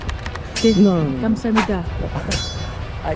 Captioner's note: korean language